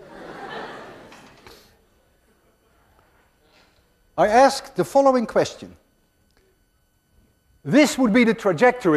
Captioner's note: class laughs